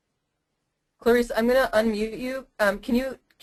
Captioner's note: voiceover